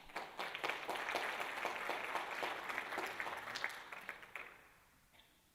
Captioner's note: applause